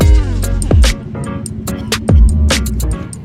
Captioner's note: haha